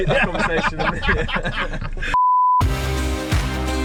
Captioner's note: laughs; upbeat rock music